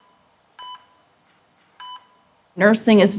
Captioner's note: machine beeping